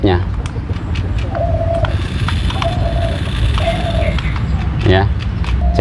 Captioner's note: sounds of rc cars